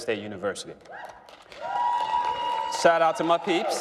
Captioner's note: applause